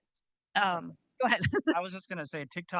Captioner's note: chuckles